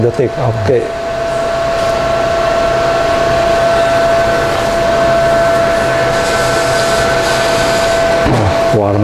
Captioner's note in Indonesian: suara mesin